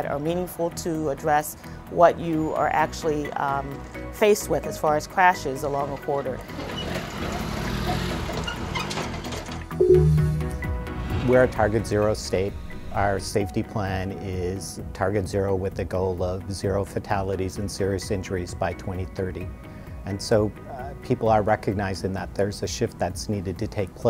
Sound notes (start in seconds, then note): 6.3 truck passing; 9.8 digital tone